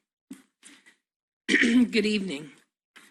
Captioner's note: clears throat